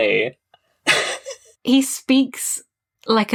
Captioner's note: laughs